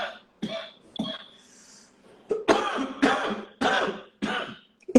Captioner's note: coughing